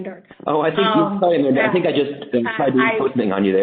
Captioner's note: laughs